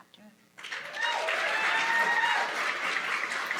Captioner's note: applause